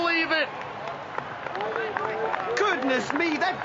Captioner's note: clapping